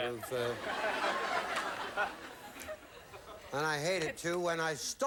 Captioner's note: audience laughing